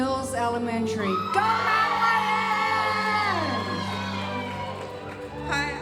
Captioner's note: audience cheering